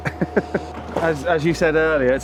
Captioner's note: laugh